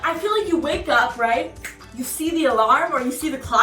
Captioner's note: fingers snap